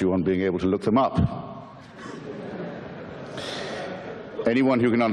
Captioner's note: audience laughter